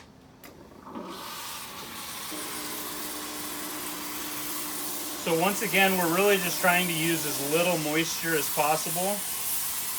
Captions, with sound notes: (steamer hissing) So once again, we're really just trying to use as little moisture as possible,